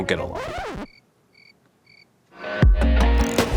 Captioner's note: record scratch; crickets chirping; upbeat music